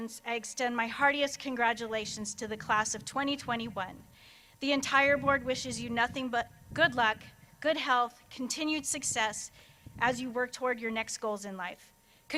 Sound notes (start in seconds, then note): none